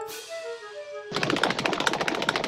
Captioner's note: feet tapping